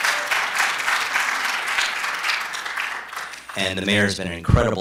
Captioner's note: applause